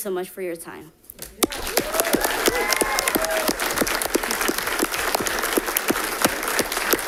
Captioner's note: audience clapping; audience cheering